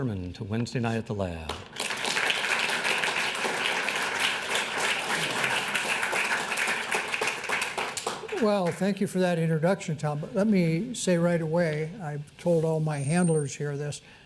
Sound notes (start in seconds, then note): 1.4 applause